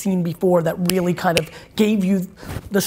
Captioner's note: snaps